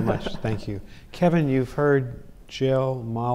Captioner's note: both laughing